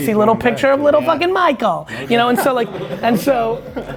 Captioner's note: laughs